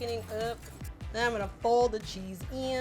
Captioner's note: whisk rustling